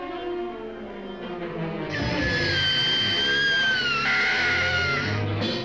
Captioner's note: sucking tie away